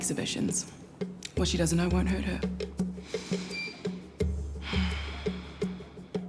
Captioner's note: breathes deeply